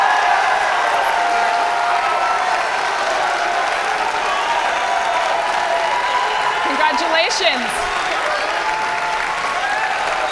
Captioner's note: cheering